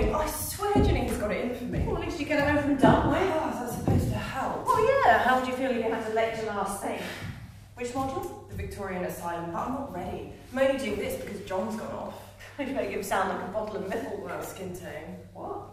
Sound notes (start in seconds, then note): none